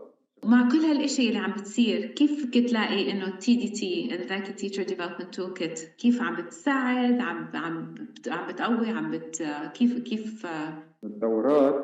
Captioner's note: speaking arabic